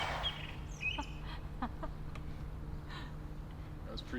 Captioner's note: Elise laughs